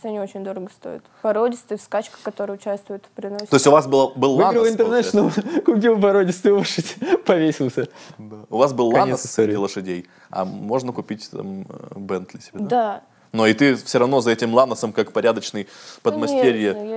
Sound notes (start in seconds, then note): 8.5 laughs